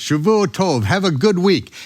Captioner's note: speaking in foreign language